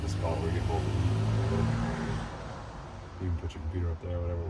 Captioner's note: car engine revving